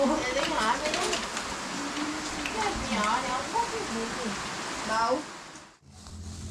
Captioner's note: continuing heavy rain